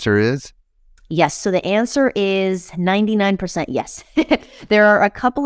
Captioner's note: chuckles